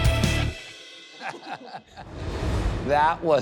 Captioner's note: energetic music; laughs